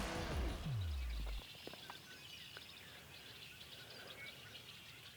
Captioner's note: birds chirping